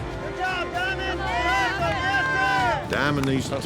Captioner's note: cheering